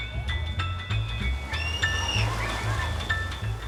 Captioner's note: screams